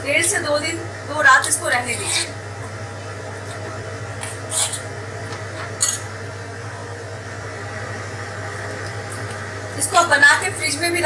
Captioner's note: refrigerator